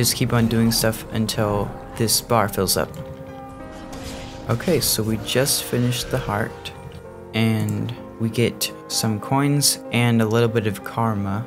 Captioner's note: zoom